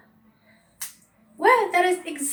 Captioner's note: snaps fingers